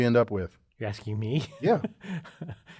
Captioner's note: laugh